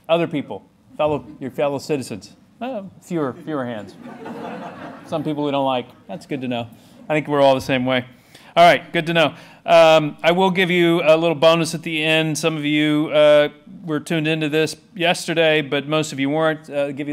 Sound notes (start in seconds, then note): 3.3 laughter